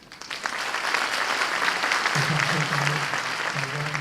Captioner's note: audience applause